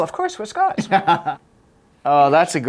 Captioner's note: laughs